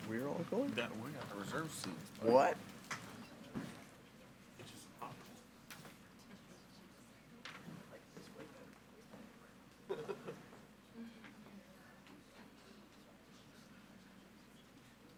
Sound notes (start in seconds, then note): 3.4 members and audience speaking faintly